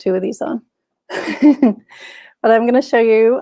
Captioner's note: chuckles